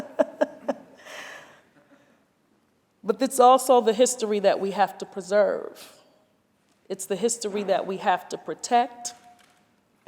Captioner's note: laughter